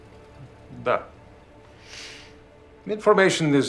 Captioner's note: speaking in a foreign language